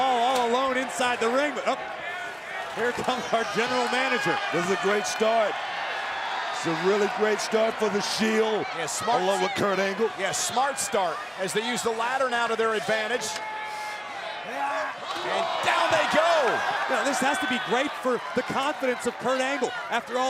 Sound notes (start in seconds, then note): 0.0 applause; 13.7 applause